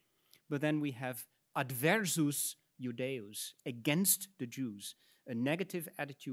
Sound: speaks in Latin

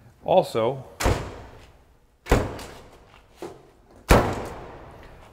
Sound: door slams shut

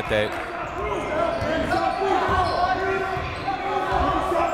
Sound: shouting

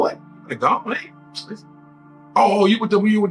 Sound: sucks teeth

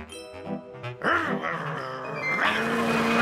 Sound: growling

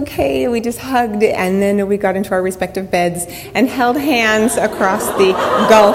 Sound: audience laughter

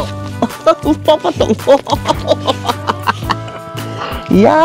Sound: laughs

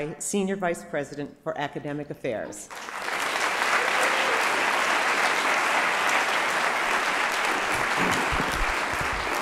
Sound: applause

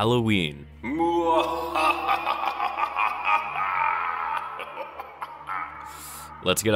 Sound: evil laughter

